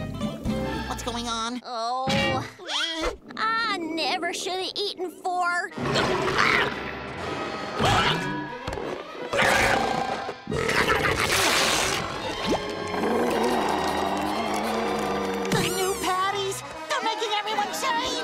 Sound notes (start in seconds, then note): 1.6 groaning; 12.8 moaning